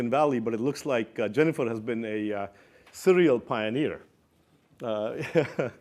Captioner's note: laugh